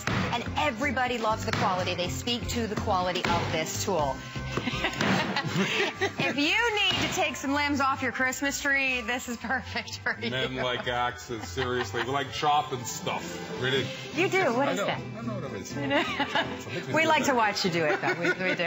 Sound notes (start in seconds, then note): 4.5 laughter